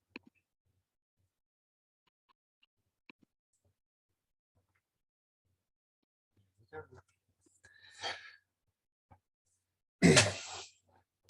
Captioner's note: clears throat